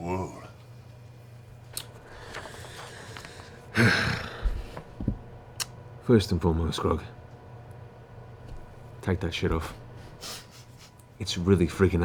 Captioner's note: sighs